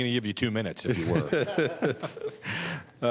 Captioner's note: laughter